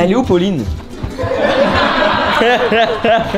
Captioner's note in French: éclats de rires